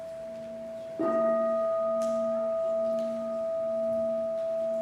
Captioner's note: bell dings